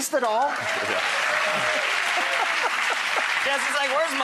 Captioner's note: audience clapping